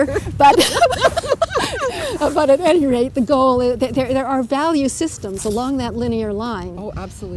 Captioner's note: laughter